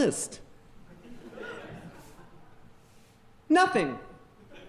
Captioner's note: audience laughing